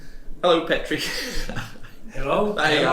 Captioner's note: chuckles